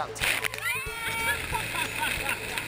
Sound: laughter

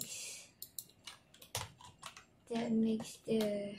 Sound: mouse clicking and keyboard sounds

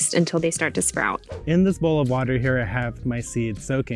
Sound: screen whooshes

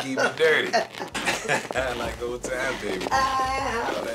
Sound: both laugh

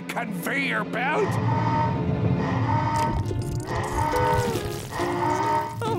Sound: rumbling, alarm blaring

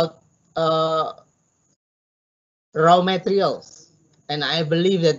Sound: stammers

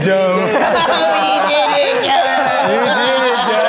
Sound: all laughing; laughs

